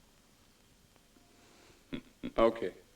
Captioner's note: dick chuckles